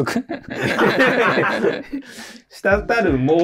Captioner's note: laughing